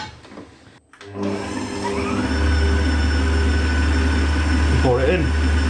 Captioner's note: machine whirring